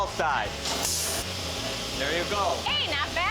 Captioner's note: grinding sounds